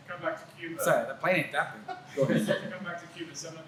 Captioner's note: laughter